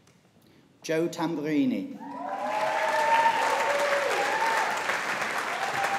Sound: audience applauding

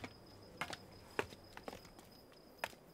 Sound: footsteps clapping

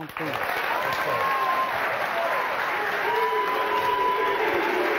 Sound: audience applauding

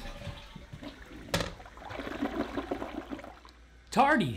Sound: thuds; toilet flushing; toilet seat thud

